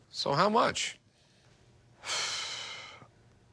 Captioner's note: sighs